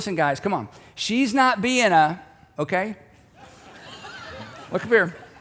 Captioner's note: audience laughing